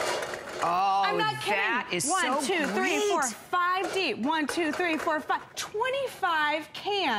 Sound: counting

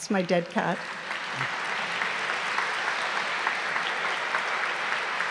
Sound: audience applauds

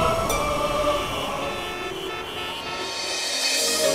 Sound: dramatic music; car honking

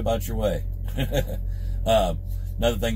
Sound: laughs

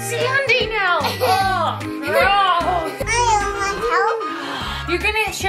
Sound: laughing

